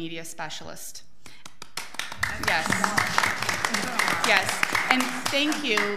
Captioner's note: audience applauds